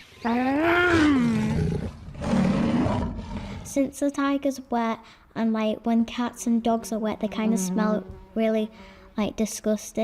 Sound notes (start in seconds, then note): 0.9 tiger growls